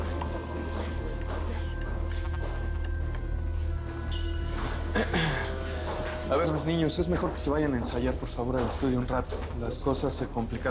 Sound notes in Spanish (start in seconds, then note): 4.9 Carraspea